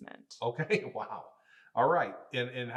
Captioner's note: laughing